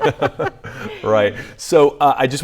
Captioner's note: laughs